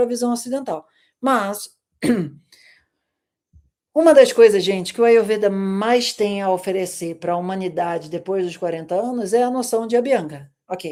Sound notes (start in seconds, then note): 2.0 clears throat